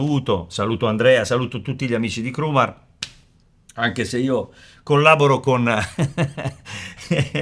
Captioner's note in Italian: risate